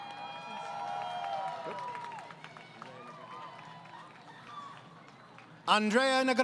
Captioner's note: crowd Cheering